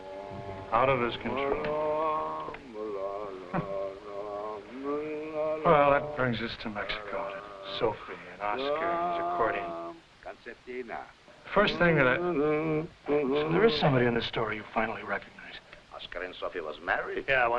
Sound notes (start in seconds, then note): 2.4 singing in foreign language; 11.5 Jakob humming